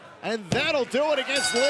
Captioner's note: bell